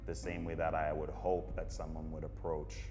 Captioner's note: none